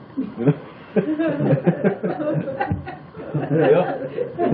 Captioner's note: laughter